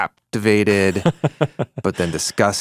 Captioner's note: laughs